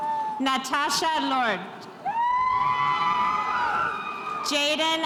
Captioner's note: spectators cheering